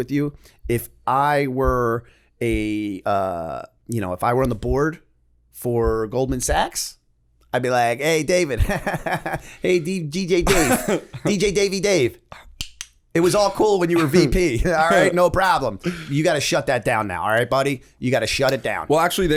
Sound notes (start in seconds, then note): 9.0 chuckle